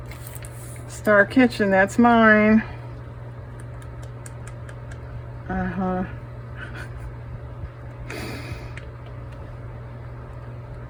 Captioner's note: laughs